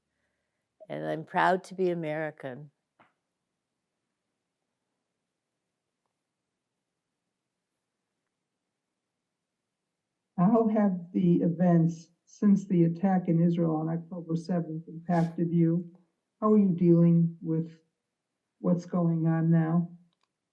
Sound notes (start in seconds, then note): 5.2 pauses 8 seconds